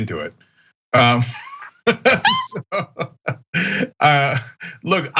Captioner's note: laugh